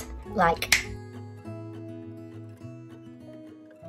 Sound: snaps

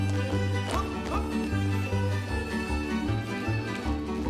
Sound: performers stomping; upbeat folk music

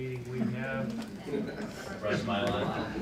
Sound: laughter

